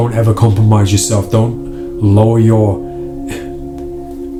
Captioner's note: sighs